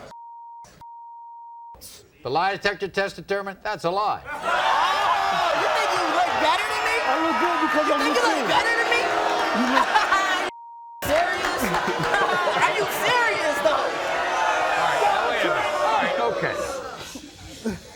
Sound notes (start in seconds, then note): 0.2 beep; 9.4 audience boos; 10.6 beep